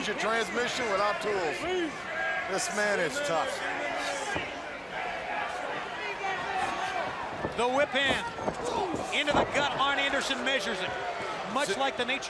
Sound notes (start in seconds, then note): 4.3 crowd chatter